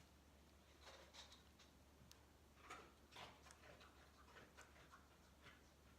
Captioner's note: sound of eating in the background